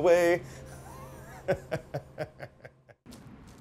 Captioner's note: laughs